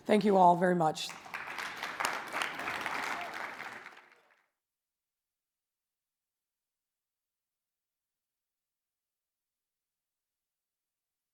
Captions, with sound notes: Thank you all very much. (audience applauds)